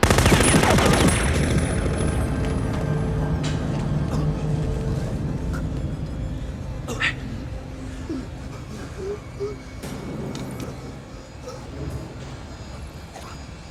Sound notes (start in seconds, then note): 0.0 machine gun firing; 4.4 Ramirez choking; 8.3 Ramirez gasping